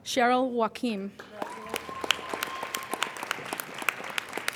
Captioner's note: applauding